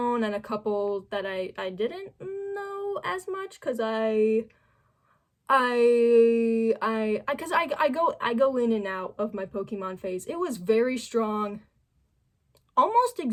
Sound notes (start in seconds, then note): none